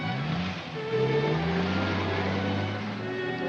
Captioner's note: car doors close; ominous music; car accelerates away; ominous music